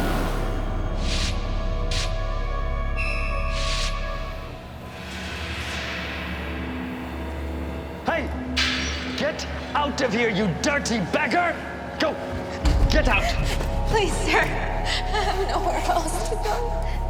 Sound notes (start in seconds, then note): 12.2 boot kicks